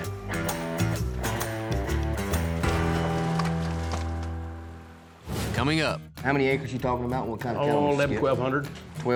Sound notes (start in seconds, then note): 2.6 water splashing